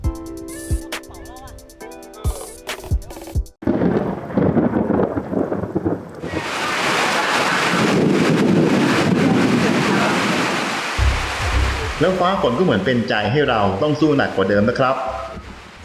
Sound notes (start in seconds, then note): 3.6 thunder storm; 7.2 heavy rain